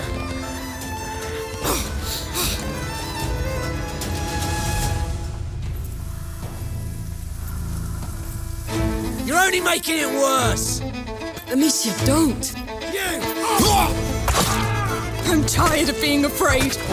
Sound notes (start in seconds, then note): 1.6 amicia breathing heavily